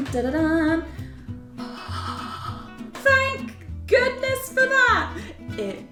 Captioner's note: happy sounds